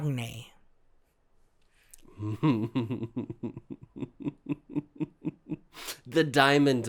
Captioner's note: chuckles